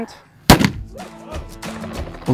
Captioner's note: loud bang